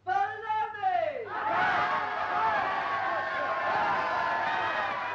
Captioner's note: cheering